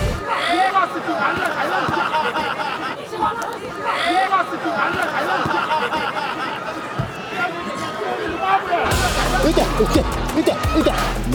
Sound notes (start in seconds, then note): 2.1 laughing; 5.6 laughing; 10.6 laughs